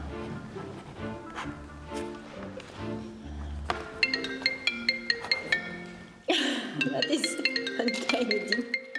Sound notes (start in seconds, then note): 4.0 mobile phone rings